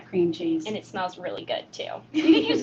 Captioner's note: laughter